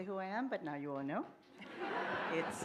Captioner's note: laughter